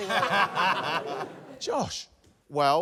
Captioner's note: laughter